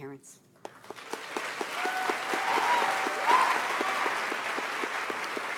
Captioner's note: audience applauds